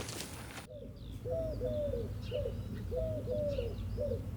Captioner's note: dove cooing